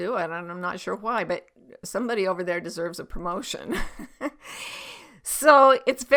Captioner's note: chuckles